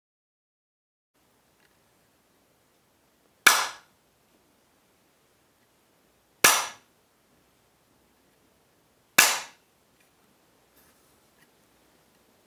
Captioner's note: three claps with the bamboo stick